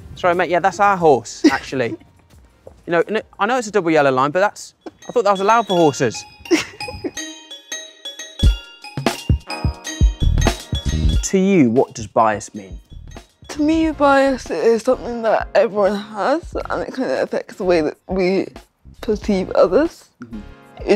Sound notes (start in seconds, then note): 6.4 laughs; 8.6 upbeat music